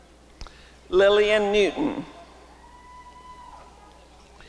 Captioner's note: applause and cheering